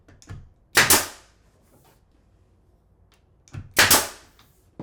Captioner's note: nail gun clicking